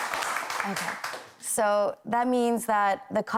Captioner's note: applause